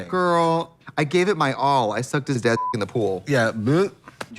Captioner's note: beep